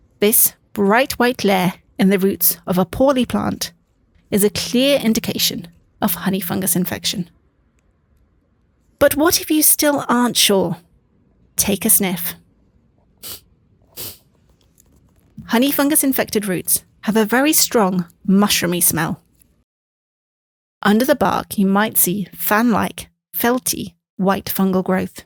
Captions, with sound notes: This bright white layer in the roots of a poorly plant is a clear indication of honey fungus infection. But what if you still aren't sure? Take a sniff. [Sniffing noises] Honey -fungus infected roots have a very strong mushroom smell under the bark. You might see fan-like, felty-white fungal growth.